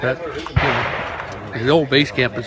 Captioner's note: gunshots